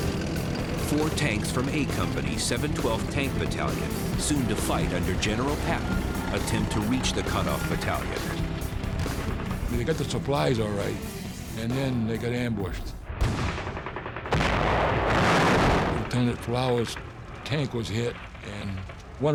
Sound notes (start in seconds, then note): 12.9 explosion; 13.0 gunfire